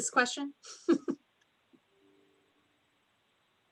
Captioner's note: laughs